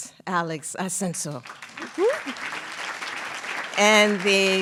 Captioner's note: applause